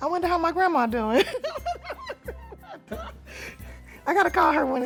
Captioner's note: both laugh